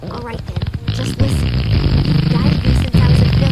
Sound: farting

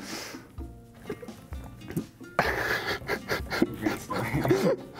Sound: laughing

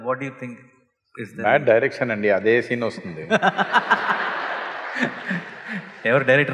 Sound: laughter

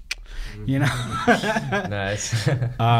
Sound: laughs

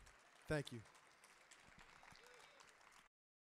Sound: audience applauding

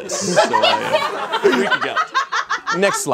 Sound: audience laughs

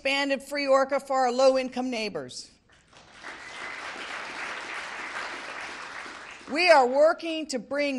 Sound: applause

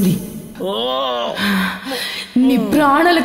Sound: groans

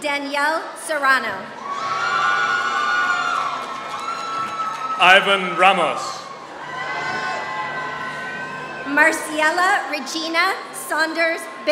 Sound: applause

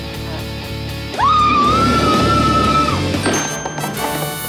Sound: screaming

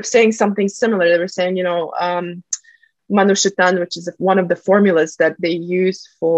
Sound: russian

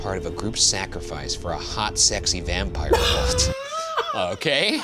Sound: laughs

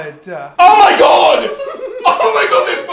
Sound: giggling

